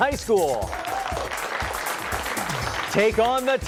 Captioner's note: applause